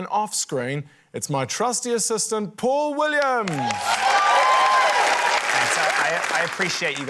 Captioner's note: cheering, applause